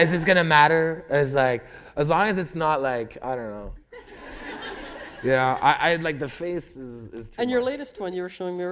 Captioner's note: laughter